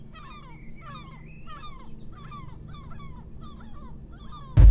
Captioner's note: gulls squawking